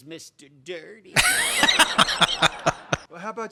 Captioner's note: laughing